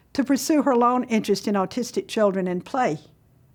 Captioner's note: none